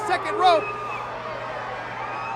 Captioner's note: applause